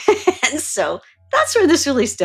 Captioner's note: laughs